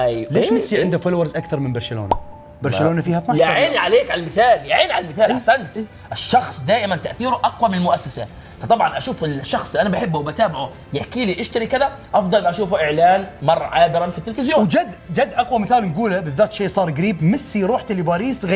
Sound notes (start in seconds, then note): none